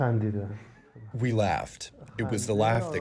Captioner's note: through translator